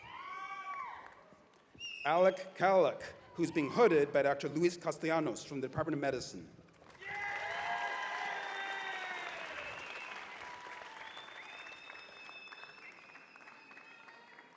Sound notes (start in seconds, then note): 6.8 cheers and applause